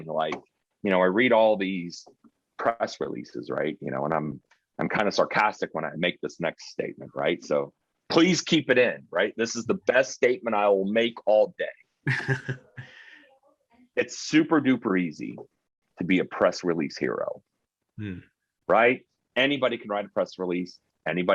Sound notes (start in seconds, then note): 12.0 chuckling